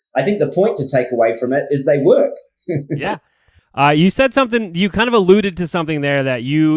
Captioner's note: laughs